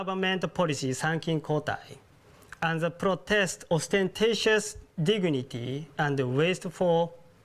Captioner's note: japanese